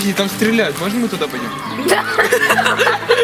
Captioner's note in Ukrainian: дівчата сміються